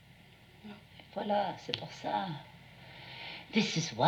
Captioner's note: speaking in another language